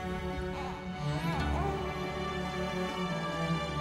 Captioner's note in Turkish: Bebek ağlama sesi